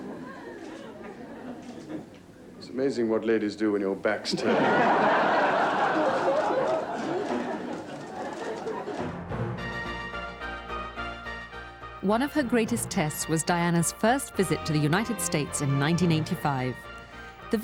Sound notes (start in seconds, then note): 4.4 laughing; 9.8 grand orchestral music